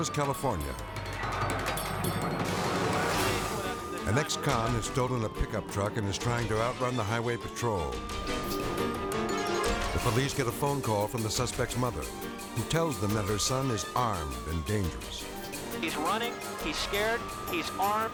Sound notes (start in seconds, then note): 1.1 dramatic music; 8.5 siren blaring